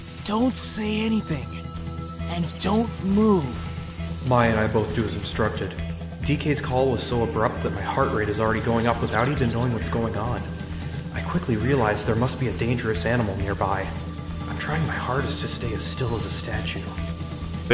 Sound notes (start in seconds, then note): 2.0 foliage rustling